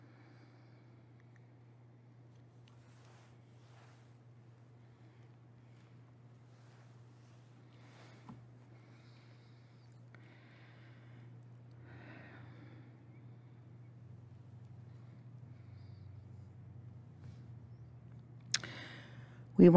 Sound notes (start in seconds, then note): 4.4 silent Prayer